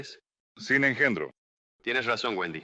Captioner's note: in spanish